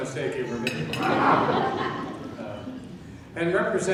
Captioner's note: laughing